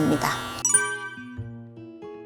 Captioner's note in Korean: 띠링 하는 소리